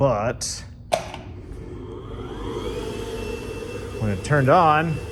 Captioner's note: foot switch clicks, blower whirrs